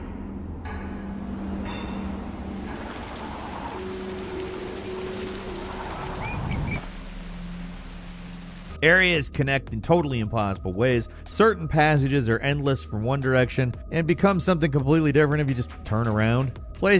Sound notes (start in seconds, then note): 0.7 metallic clanging; 0.7 wind howls; 6.5 birds sing; 6.5 water rushes